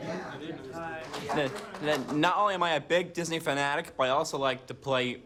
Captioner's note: applause